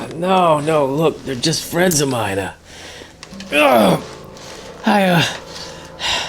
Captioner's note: grunts